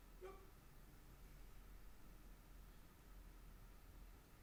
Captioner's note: performer yelps